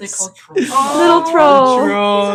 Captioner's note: laughing